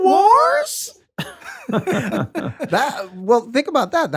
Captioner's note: laughter